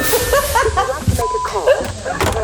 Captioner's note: laughs